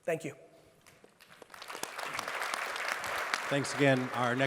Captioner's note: audience applauds